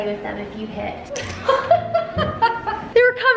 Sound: laughing

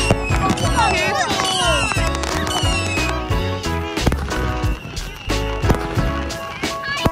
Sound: fireworks

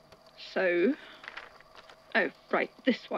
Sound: paper rustling

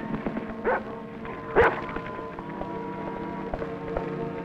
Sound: dog barks

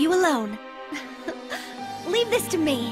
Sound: Milly laughs

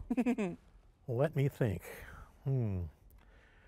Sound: laughs

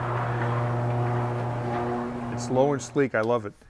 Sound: garage door opening

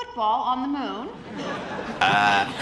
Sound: laughter

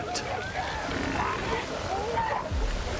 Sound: barking continues

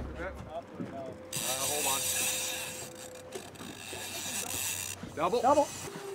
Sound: reel spinning

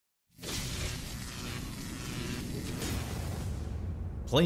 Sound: logo sizzling

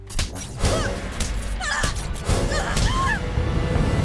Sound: girls scream in pain as they are attacked

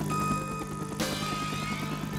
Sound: loud beeping

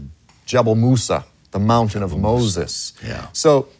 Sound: speaks in foreign language

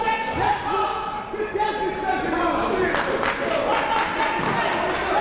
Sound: shouting; clapping

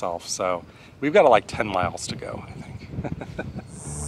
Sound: laughs

